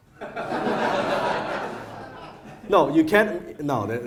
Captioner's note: audience laughs